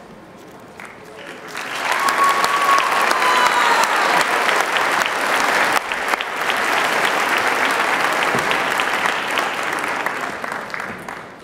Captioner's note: applause